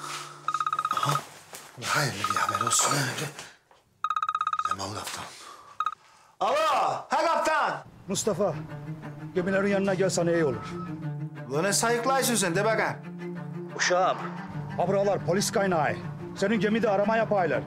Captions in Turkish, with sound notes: (Telefon çalıyor.) Ula hayırlı bir haber olsun. Leman kaptan. Alo he kaptan. Mustafa. Gemilerin yanına gelsen iyi olur. Ula ne sayıklıyorsun sen de bakayım? Uşağım. Ha buralar polis kaynıyor. Senin gemide arama yapıyorlar.